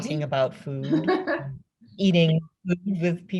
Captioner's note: laughs